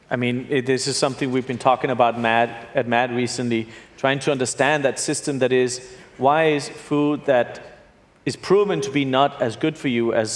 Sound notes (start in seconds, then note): none